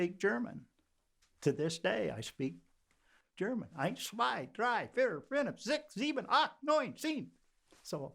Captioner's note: counting in German